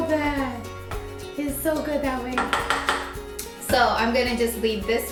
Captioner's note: tapping